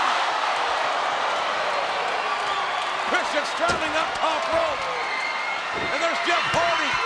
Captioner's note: applause